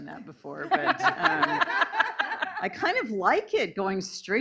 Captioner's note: laughing